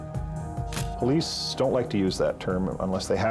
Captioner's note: camera shutter click